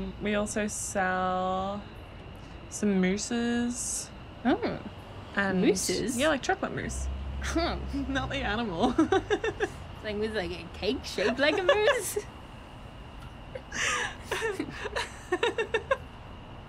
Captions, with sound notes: We also sell some mousses. - Oh, mooses? - Yeah, like chocolate mousse. - Huh. - Not the animal. (laughing) - Like with like a cake shaped like a moose? (both laughing)